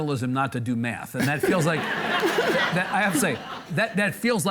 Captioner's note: audience laughing